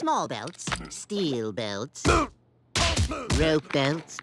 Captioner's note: grunting